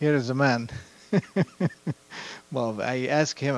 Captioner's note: laughter